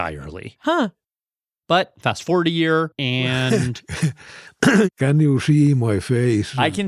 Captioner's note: laughs